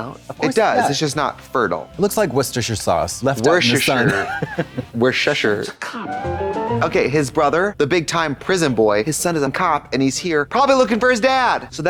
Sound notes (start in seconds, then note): 6.4 bright chime